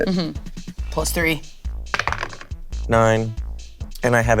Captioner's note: die rolling